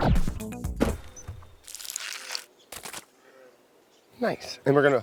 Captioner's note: scraping, splatting